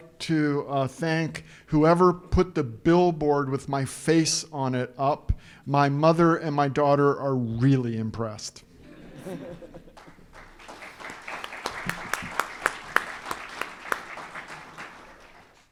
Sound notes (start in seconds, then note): 8.9 audience laughing; 9.8 audience clapping